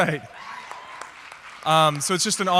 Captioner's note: audience clapping